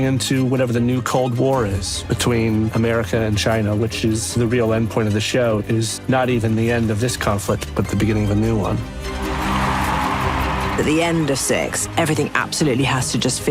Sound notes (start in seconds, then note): 9.0 crowd cheers